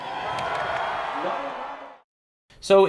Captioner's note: crowd Cheering